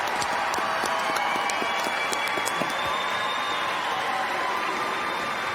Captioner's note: applause